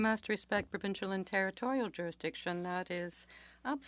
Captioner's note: speaking French